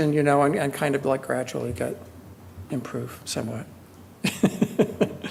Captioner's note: laughs